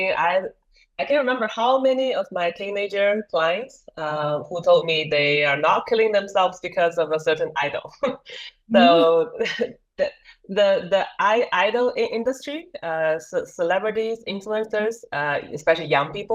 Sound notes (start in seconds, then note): 8.7 laughs